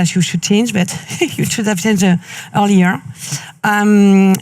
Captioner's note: chuckles